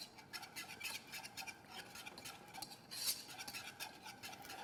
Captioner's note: whisk scrapes